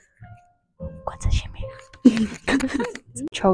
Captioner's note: giggle